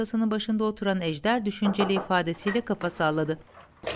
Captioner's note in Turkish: Kapı vurulma sesi; Kapı açılma sesi